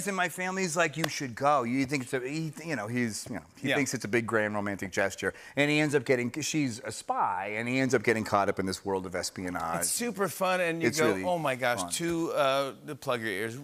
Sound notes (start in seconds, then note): none